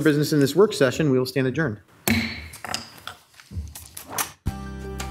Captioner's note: gavel thudding; exciting music